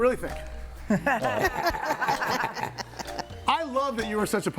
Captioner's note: all laughing